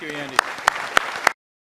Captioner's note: applause